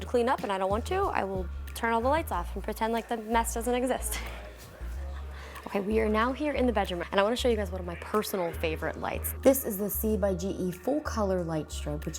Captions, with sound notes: to clean up and I don't want to I will turn all the lights off and pretend like the mess doesn't exist (laughs). Okay, we are now here in the bedroom, and I wanna show you guys one of my personal favorite lights. This is C by GE Full Color Light Strip